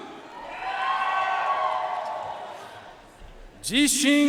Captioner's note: audience cheering and applauding